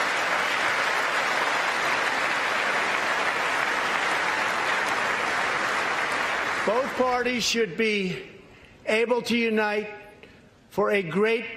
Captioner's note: applause